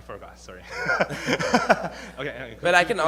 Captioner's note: laughing